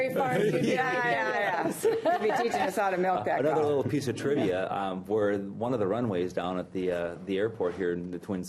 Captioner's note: laughter